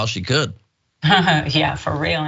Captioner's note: laugh